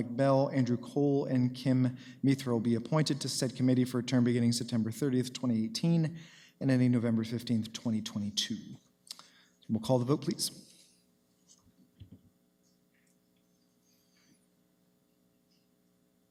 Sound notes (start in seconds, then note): none